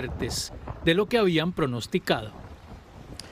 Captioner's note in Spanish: habla en ingés